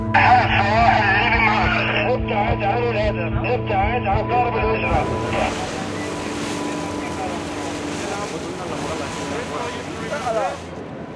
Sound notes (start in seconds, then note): 6.9 dramatic music; 6.9 waves crash